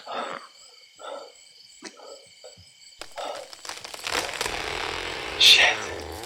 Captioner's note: Bailey gasping desperately